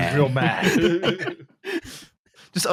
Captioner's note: laughter